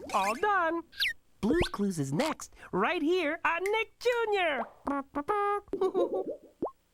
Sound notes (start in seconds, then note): 5.4 giggles